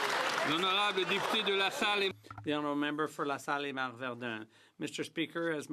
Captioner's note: some Applause